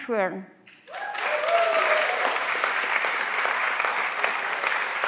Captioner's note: everyone claps